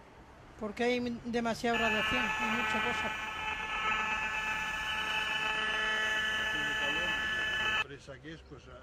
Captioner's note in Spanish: Sonido de ondas de radio frecuencias